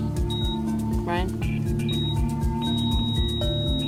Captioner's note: beeping continues; beeping stops